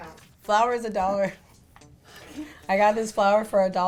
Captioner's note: laughs